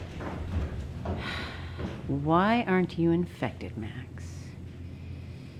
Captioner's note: sighs